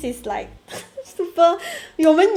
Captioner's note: chuckle